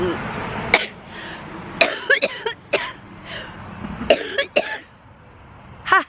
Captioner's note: coughing